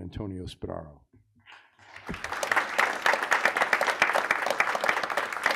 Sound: audience applauds

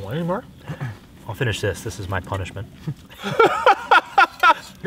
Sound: laughs

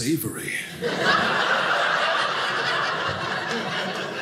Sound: audience laughing

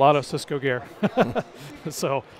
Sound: laugh

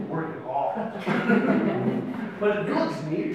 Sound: audience laughs

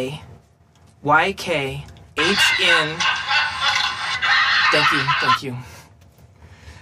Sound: laughter

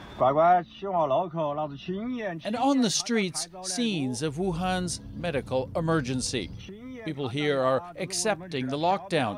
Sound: speaking foreign language

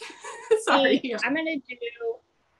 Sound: laughs

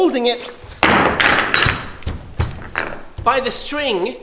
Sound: nunchucks crashing on ground

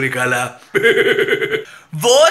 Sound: Zardari Laughs

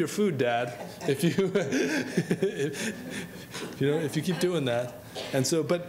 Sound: laughing

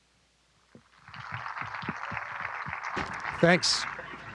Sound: applause

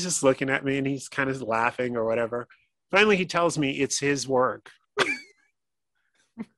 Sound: laughing

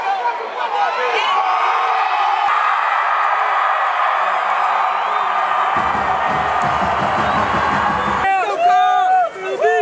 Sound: stadium cheers

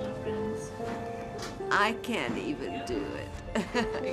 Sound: laughs

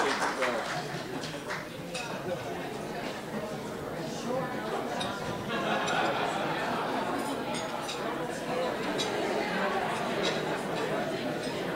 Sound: crowd talking

